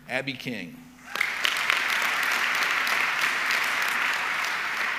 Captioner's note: audience clapping